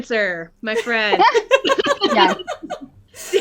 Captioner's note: laughter